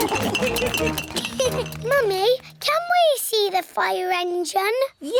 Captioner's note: laughs; all laugh; giggles